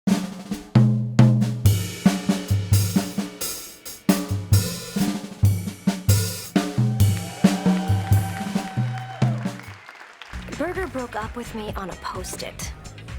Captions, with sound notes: [upbeat music] [audience clapping] - Berger broke up with me on a post-it.